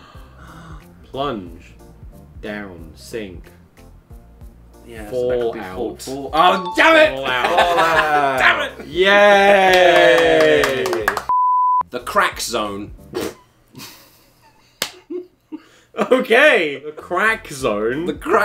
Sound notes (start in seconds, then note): 13.0 laughs